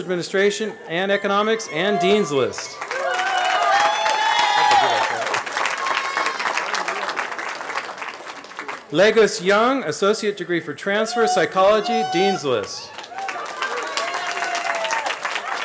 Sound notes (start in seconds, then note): 4.2 cheering